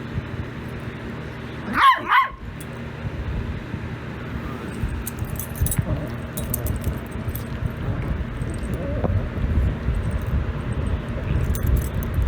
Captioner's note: Ella barks, then growls